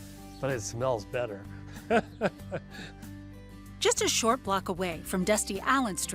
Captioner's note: laughs